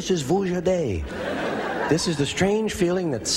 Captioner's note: laughter